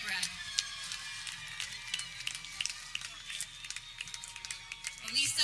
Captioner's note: people cheering